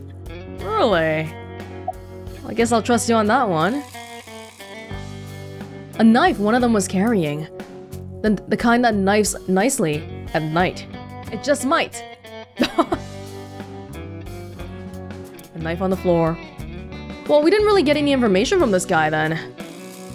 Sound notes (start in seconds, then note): 12.6 chuckles